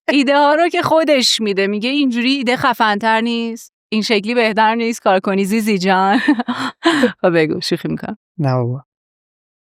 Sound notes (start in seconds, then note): 6.1 laughs